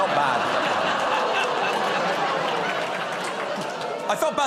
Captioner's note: laughter